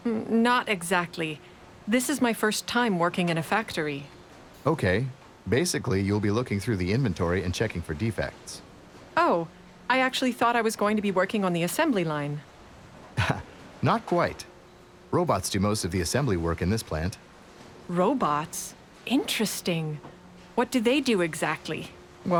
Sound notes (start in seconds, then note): 13.2 laughing